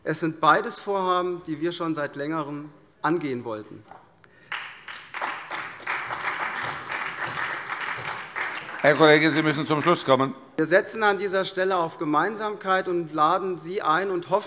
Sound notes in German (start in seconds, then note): 4.4 Beifall SPD